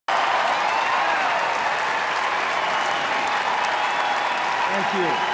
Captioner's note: applause